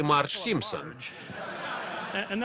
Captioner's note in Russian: Смех в зале